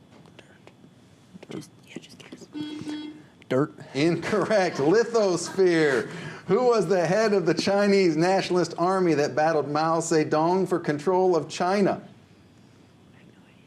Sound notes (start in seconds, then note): 0.3 whispers; 2.5 buzzer; 13.4 whispers